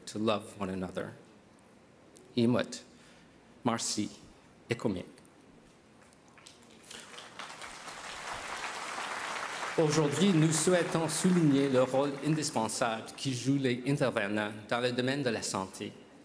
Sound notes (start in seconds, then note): 8.1 speaking Indigenous Language; 12.9 applause; 14.7 speaking French